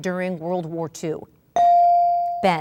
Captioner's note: ding